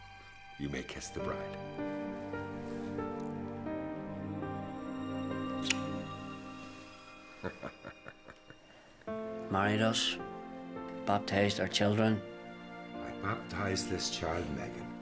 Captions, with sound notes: you may kiss the bride. (gentle music) (laughing) - Married us, baptized our children. - I baptize this child, Megan,